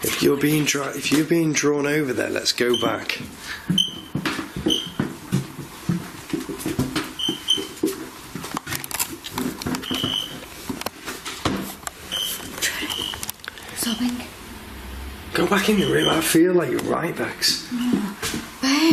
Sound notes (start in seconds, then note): 3.7 metre beeping